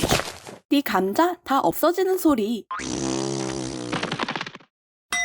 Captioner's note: blows a raspberry